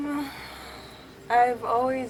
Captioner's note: sighs